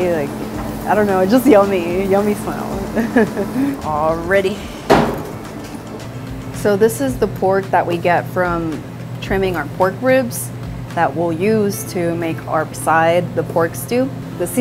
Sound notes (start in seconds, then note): 2.9 laughing